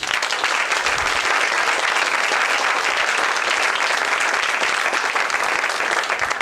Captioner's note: applause